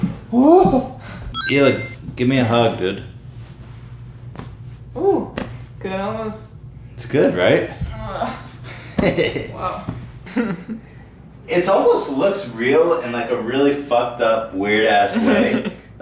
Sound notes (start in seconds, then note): 8.0 groaning; 10.3 laughing